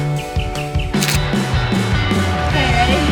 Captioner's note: birds chirping; shutter closing